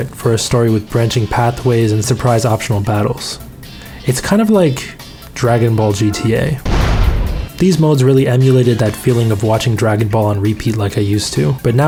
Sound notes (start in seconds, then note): 5.4 car honking; 6.6 explosion